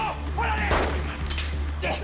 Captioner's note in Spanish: Disparos